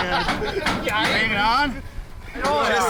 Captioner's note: workers laugh